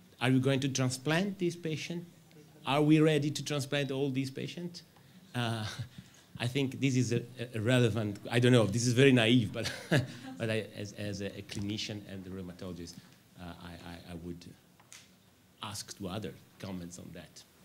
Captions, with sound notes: Are we going to transplant this patient? Are we ready to transplant all these patients? [chuckles] I think this is irrelevant. I don't know if this is very naive, but [chuckles] I as a clinician and the rheumatologist, I would ask to other comments on that,